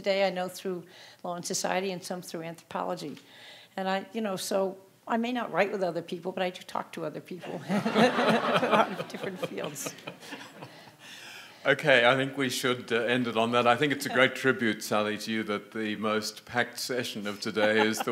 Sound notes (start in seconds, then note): 7.5 audience laughing; 7.5 laughs